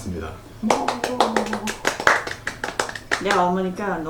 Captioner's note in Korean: 박수!!